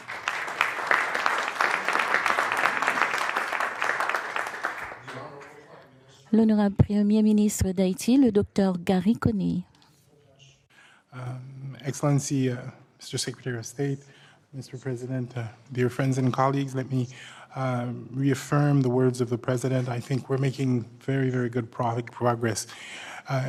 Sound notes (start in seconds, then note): 0.0 applause; 8.4 in French